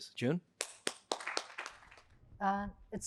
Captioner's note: applause